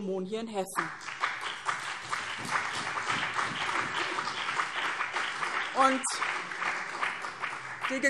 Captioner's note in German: Beifall BÜNDNIS 90/DIE GRÜNEN und CDU